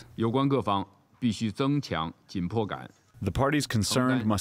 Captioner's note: through translator